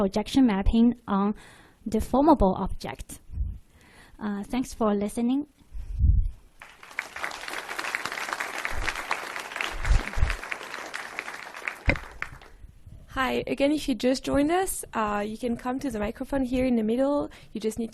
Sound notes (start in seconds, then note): 6.6 applause